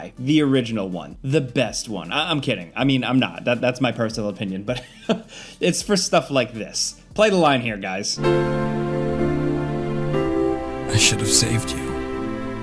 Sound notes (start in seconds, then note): 4.7 chuckles; 8.2 piano music